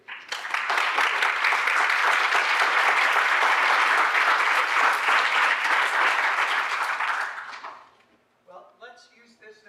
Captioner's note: applause